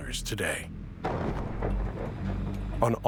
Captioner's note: thunder cracks